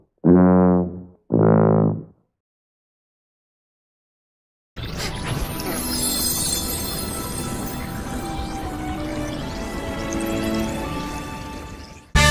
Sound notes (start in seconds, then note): 4.8 spell sound